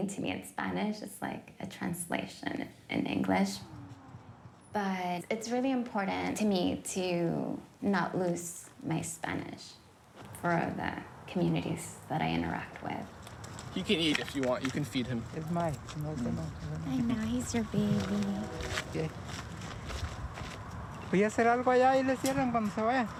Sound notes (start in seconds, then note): 15.9 speaking in Spanish; 19.0 speaking in Spanish